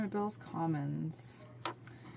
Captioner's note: speaking French